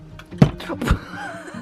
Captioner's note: loud thump; laughing